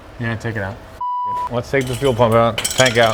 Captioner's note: beeps